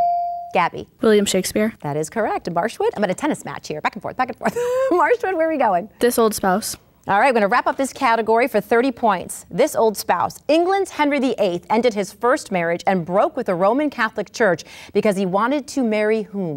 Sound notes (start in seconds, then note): 4.4 laughs